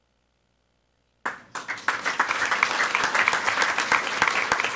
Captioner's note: people clapping